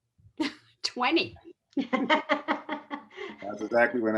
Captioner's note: laughs